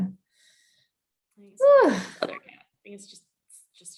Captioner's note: sighs